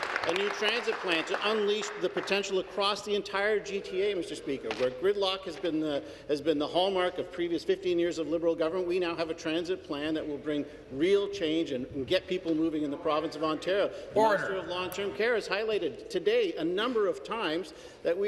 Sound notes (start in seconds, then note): 2.9 applause